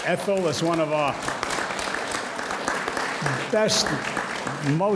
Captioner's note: audience applauds